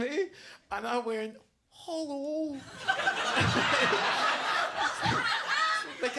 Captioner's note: audience laughs